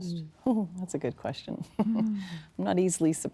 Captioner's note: chuckling